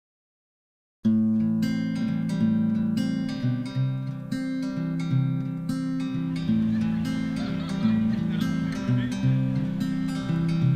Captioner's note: ambient sounds: Birds chirping, conversations, people laughing